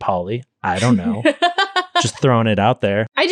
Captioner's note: laughing